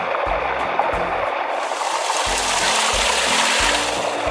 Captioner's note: waterfall splashes